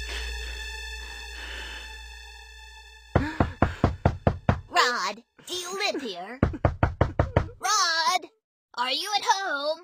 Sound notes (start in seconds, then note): 3.2 knocking